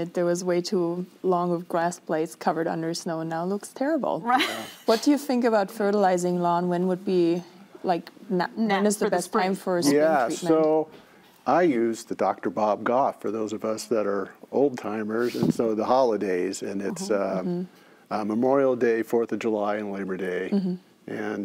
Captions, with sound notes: and there was way too long of grass blades covered under snow and now looks terrible. - Right? (laughs) - What do you think about fertilizing lawn? When would be like, when is the best time for a spring treatment? - Yeah, so I use the Dr. Bob Goff, for those of us that are old timers, and so the holidays and it's Memorial Day, 4th of July and Labor Day.